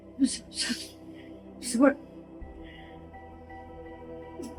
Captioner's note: churchgoer sniffling